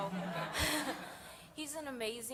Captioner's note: laughter